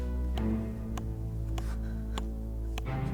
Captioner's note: hammering continues